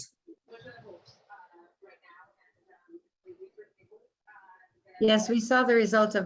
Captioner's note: indistinct background chatters